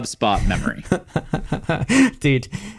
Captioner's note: laughs